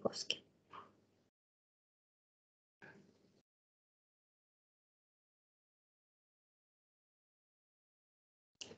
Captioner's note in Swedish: Tystnad